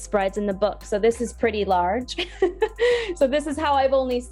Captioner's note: laughs